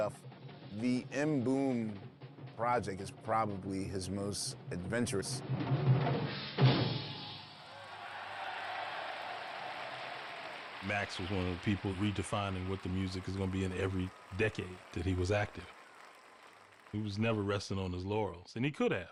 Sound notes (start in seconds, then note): 6.8 applause